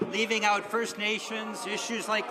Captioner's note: some Applause